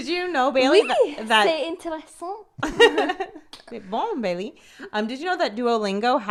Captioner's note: speaking in foreign language